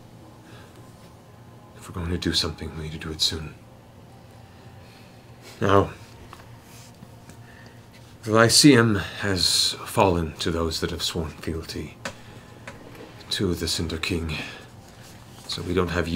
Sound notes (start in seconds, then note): none